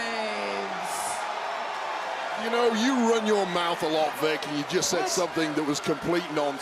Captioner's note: crowd cheers